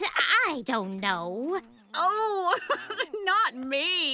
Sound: laughing

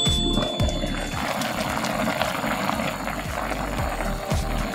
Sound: simmering… delicious sound…

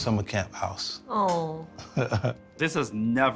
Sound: chuckles

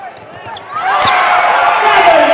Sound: cheering and applause

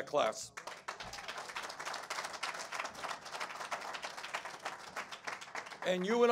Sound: applause

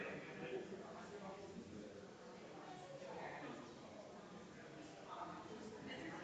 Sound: people chattering distantly continues

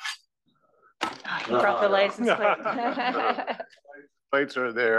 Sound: laugh

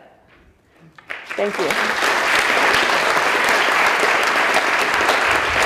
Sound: audience applauding

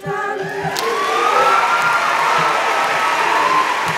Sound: audience cheers

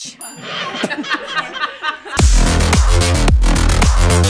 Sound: people laughing

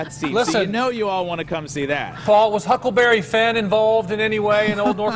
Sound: laughter

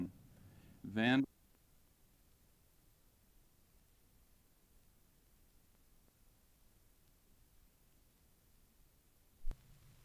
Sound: silence

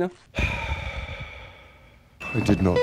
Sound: sigh

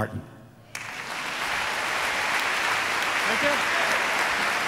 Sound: audience applauds

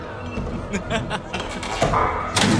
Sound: evil laughter

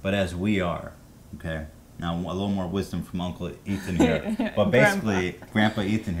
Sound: laughing

